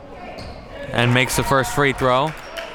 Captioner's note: audience cheering